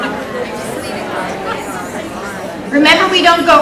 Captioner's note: audience chattering